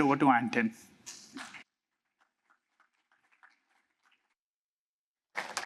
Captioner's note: applause